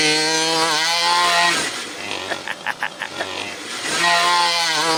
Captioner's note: truck engine revving